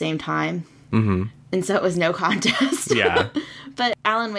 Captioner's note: laughs